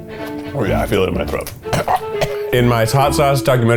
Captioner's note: orchestra music; coughs